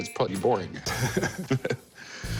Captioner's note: both chuckle